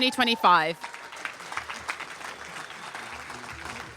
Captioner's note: applause